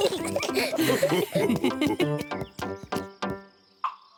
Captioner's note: mummy pig and daddy pig chuckle; both giggle excitedly